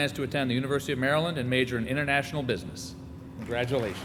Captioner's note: applause